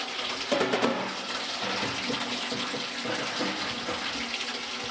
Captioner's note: water running